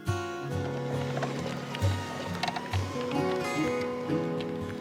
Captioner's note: wheels whirr